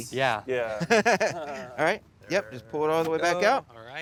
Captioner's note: laughs